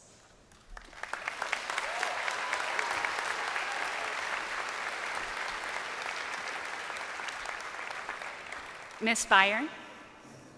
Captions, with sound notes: and block some field goals. (crowd applauding)